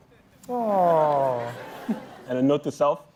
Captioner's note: laughter